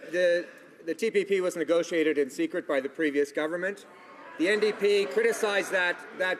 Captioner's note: some Applause